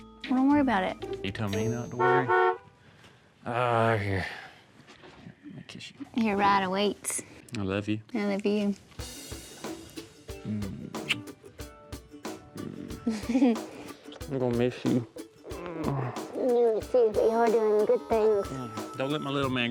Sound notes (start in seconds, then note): 1.8 car horn